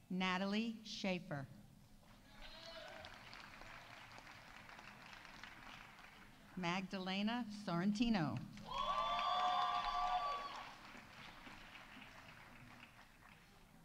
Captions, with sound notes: Natalie Sheifer. -(audience applauding) -(audience cheering) Magdalena Sorrentino. -(audience applauding) -(audience cheering)